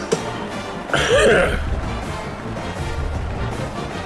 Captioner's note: crowd Noises